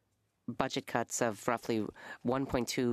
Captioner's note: speaking French